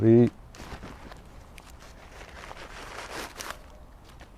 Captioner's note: rustling